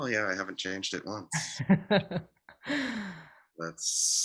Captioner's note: laughter